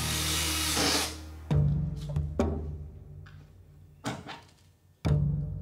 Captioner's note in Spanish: ruido al taladrar